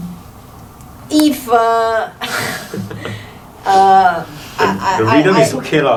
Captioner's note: laughs